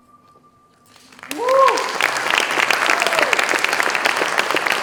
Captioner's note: applause, cheers